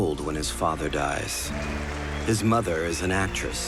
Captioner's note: crowd applauding